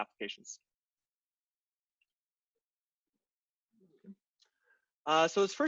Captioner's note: silence